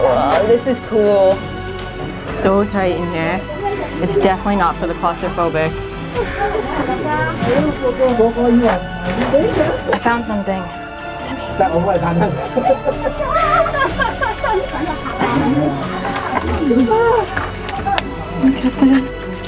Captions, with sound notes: Waaah, this is cool It's so tight in here It's definitely not for the claustrophobic I found something! (whispering) What's that mean?? Look at this!